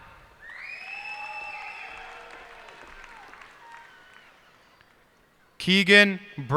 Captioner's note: cheers and applause